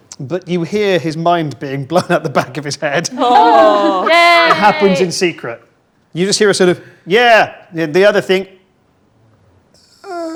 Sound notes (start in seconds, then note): 3.1 group groans